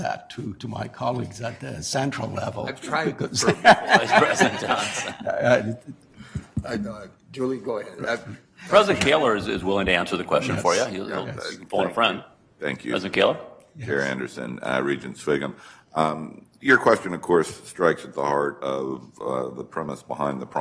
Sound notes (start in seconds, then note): 3.4 audience laughter